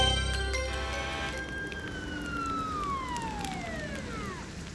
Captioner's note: emergency sirens